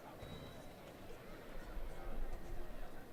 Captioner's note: none